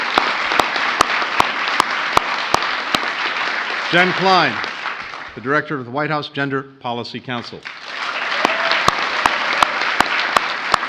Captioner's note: applause